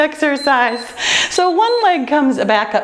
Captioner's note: timer beeps